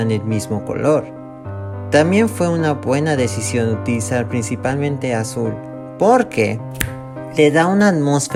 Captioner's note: snap